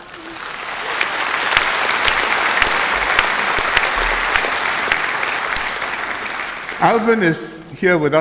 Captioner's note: applause